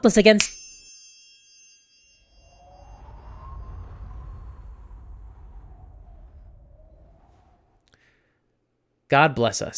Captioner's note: ding